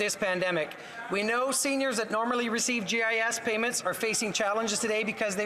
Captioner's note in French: voix de l'interprète